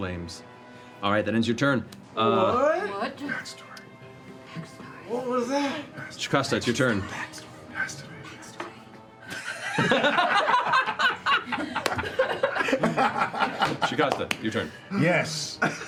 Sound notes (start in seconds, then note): 9.5 whispering; 10.8 laughter